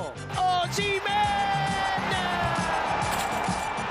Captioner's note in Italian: Applauso